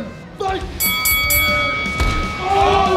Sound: fighting bell rings; heavy metal music plays

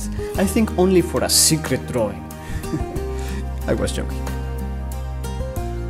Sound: laughs

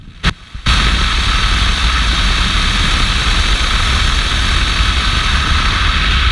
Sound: car's engine running

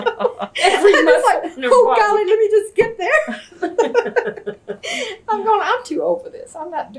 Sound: laughter; laughter

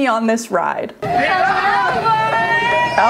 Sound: contestants cheer

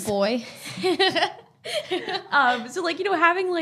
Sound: both laughing

